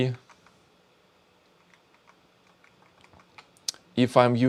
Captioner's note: keyboard clicking